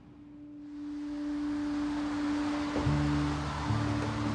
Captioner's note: hopeful music; traffic whirs